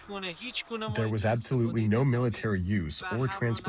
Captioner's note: through translator